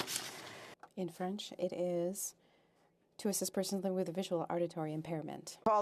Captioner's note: speaking French